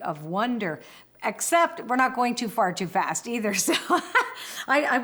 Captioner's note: laughs